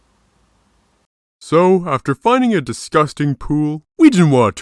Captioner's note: none